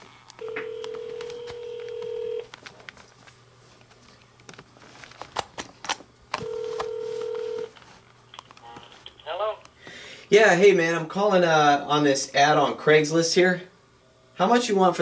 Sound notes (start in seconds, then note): 0.4 phone ringing